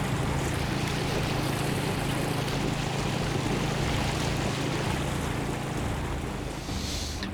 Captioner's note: boat motor humming; water sloshing